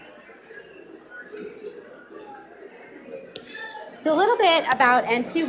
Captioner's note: audience mumbling